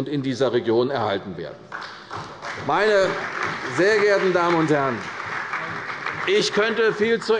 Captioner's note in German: Beifall bei der CDU und dem BÜNDNIS 90/DIE GRÜNEN